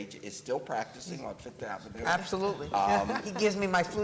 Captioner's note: laughter